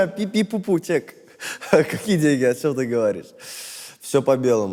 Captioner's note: chuckles